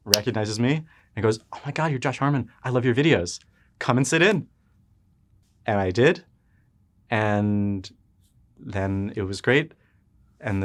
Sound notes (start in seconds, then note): none